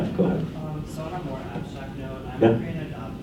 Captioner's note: voiceover